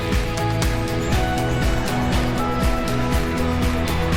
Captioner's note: traffic noise